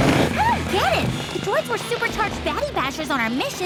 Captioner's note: shouting